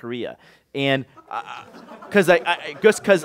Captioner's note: laughter